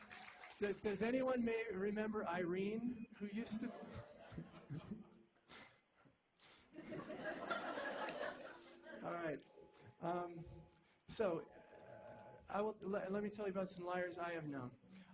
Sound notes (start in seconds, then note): 4.1 laughter